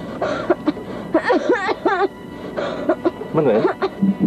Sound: Manuel coughing intensely

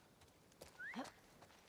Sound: whistle

